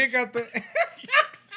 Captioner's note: speaking Spanish